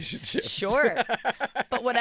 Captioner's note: laughing